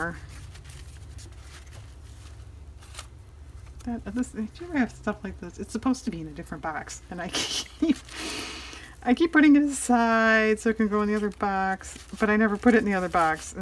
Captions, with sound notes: do you ever have stuff like this? it's supposed to be in a different box, and (laughs) i keep putting it aside so it can go in the other box, but i never put it in the other box,